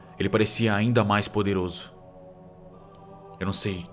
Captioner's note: none